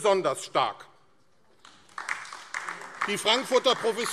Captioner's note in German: Beifall AfD